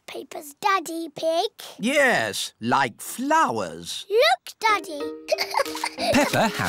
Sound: giggles

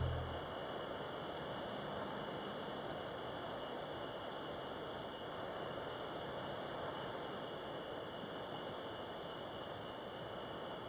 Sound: night soundscape

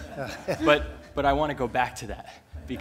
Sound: laughter

